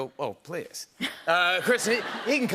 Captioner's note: laughter